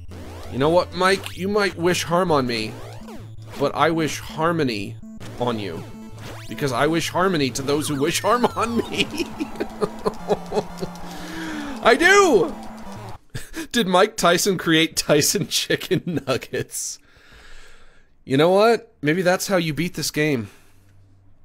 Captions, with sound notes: You know what, Mike? You might wish harm on me. But I wish harmony on you, because I wish harmony to those who wish harm on me. [ Sobbing ] I do! [ Laughing ] "Did Mike Tyson create Tyson chicken nuggets?" You know what? Maybe that's how you beat this game.